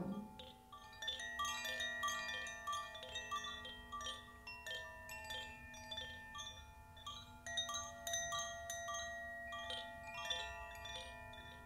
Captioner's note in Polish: dźwięk dzwonków